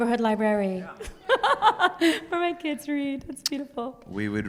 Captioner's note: laughs